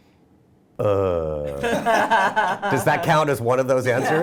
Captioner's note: laughing